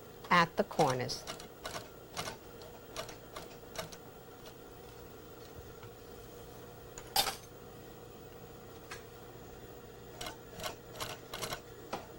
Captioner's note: sewing machine